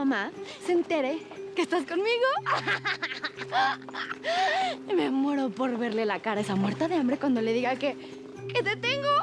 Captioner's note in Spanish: Carcajadas